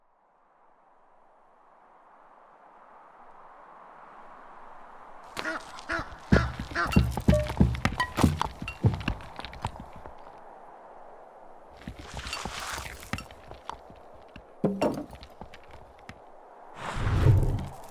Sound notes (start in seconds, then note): 0.4 wind; 5.4 duck quacks; 6.3 sound of barrel bouncing and hitting cart; 14.6 clunk